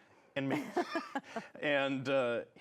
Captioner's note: laughs